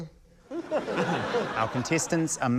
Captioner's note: laughter